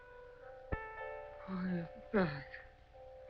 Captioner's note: Chris murmuring